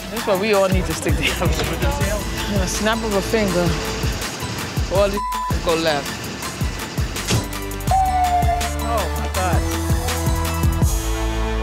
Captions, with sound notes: - That's why we all need to stick together. With the snap of a finger, all this (beep) could go left. (siren wails) Oh my god.